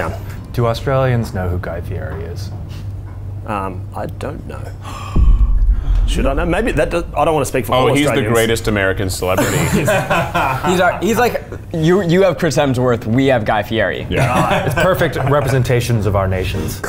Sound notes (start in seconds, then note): 4.8 gasping; 9.3 laughing